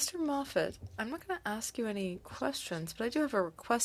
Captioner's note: speaking French